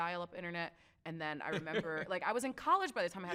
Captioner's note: laughs